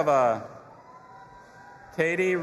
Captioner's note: audience applauding and cheering